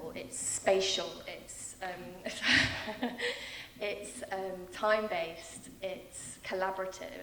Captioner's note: laughing